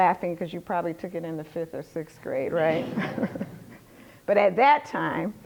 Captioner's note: laughter